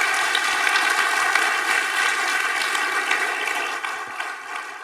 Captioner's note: audience applauding